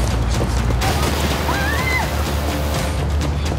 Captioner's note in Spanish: Disparo; Gritos